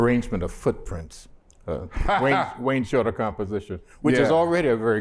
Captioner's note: laughter